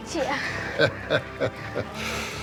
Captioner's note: chuckles